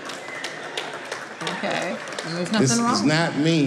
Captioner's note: audience clapping